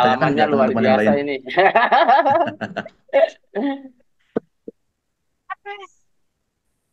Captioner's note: laughs